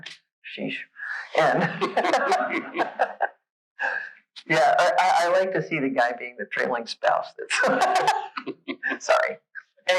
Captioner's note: laughs